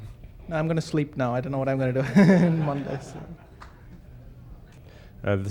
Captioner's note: laughs